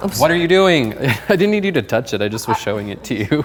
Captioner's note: laughing